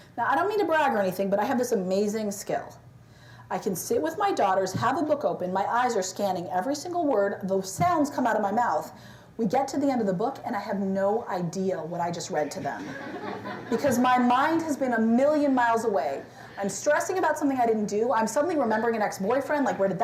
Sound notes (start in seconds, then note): 12.4 laughter